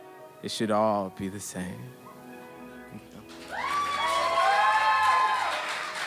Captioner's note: audience cheers and applauds